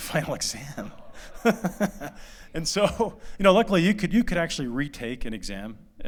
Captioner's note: laughter